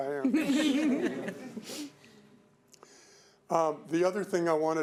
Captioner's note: audience laughing